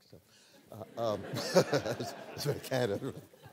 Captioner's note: laughter